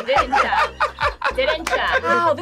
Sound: laughing

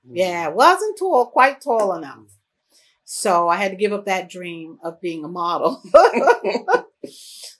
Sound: laughter

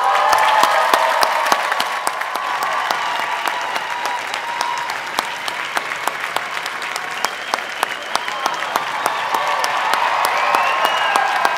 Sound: applause

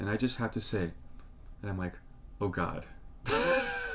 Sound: laughs

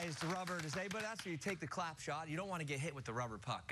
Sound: cheers and applause

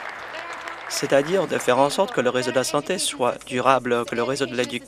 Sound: applause

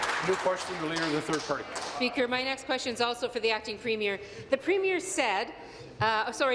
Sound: applause

